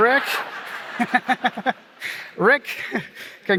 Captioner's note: laughter